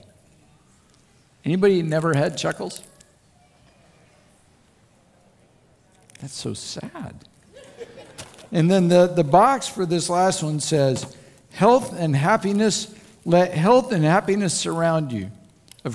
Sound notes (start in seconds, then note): 7.5 laughter